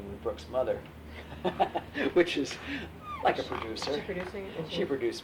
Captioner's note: laughs